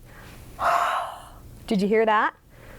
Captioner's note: sound of breathing